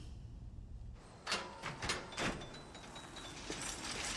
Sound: gate rattling

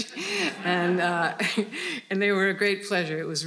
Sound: audience laughing

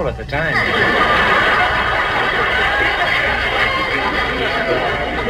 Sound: audience laughs

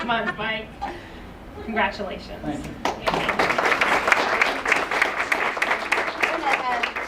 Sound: applause

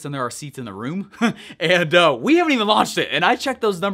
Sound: laughing

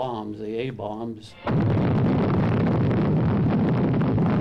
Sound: bomb booming

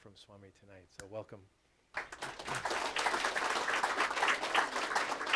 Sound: applause

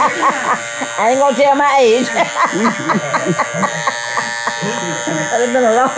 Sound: woman laughing; laughs

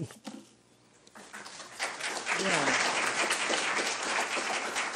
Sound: applause

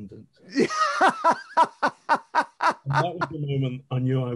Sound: men laughing

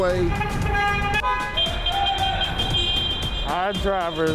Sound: vans beeping

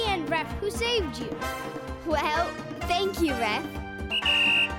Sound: whistle blowing

